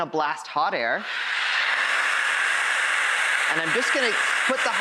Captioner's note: blowing